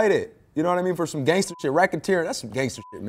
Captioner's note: beep